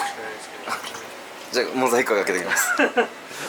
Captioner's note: laughs